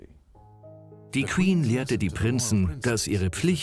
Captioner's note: voiceover